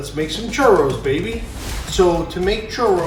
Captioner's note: air whooshes